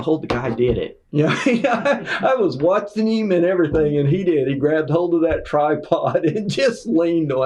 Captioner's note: laughter